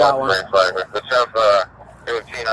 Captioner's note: radio chatter